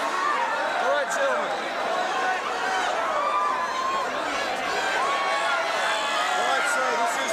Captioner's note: crowd cheering